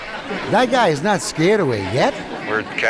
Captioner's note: audience laughing